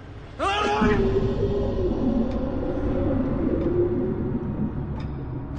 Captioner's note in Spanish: Gritos